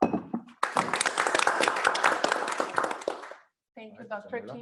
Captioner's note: applause